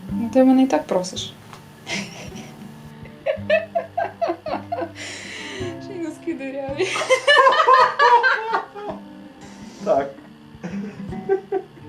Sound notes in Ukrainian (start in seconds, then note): 3.4 насміхається; 6.9 дикий сміх